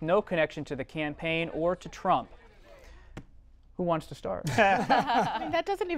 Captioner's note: laughter